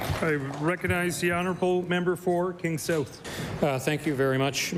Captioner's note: applause